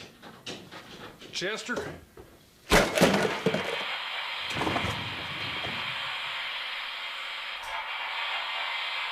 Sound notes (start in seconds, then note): 2.7 object clattering; 3.2 static hissing